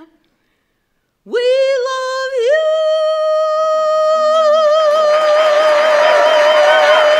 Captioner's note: cheers and applause